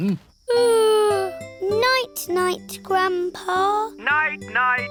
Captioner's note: yawns